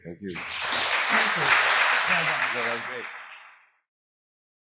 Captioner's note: audience applauds